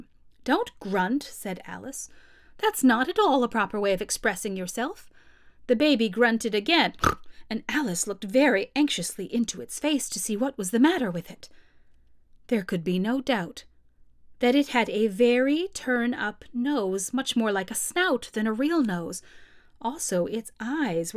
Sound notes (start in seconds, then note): 7.0 snort